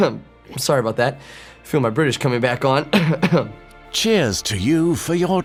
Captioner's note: coughs